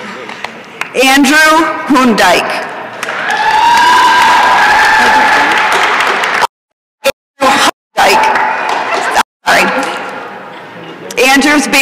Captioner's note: applause and cheering